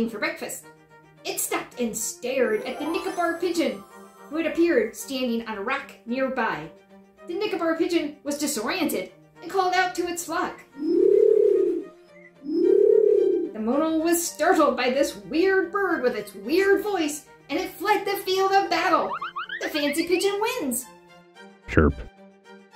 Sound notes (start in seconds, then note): 10.8 pigeon call